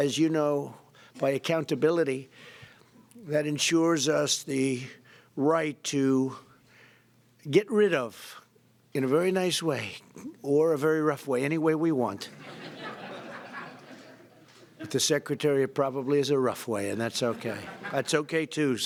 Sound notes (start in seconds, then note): 12.3 laughter